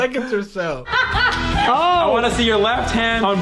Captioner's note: laughter